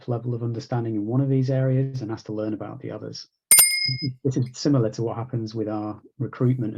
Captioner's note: bell rings